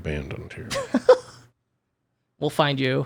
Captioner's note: laughing